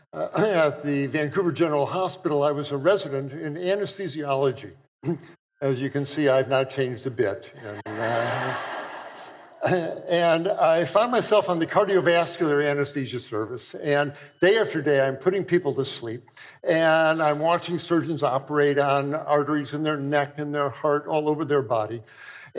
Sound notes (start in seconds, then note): 7.5 laughter